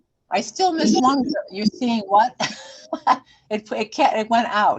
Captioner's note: chuckling